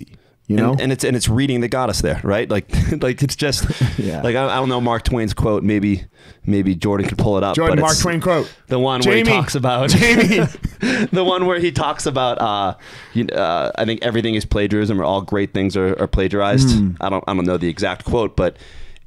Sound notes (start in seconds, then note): 10.0 laughing